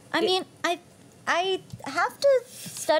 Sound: none

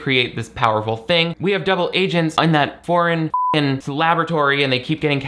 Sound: beep

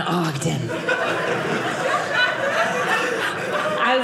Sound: audience laughing

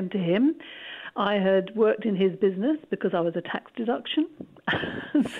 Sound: laughs

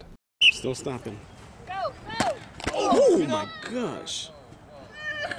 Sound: whistle blows; helmets crash; player crying; crowd

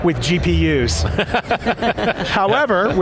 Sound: panelists laugh

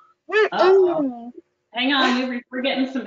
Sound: young girl mumbles

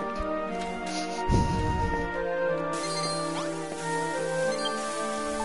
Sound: snickers

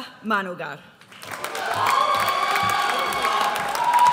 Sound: audience cheers

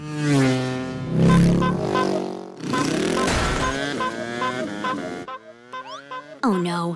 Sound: scooter noises; honking, banging

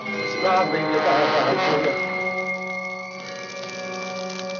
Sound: stammers

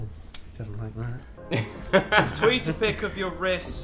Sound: laughing

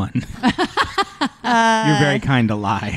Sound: laughs

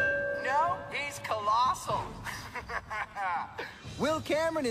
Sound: evil laughter and deep breath

